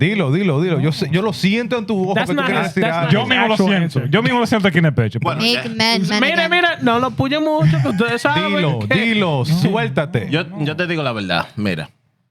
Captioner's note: speaking Spanish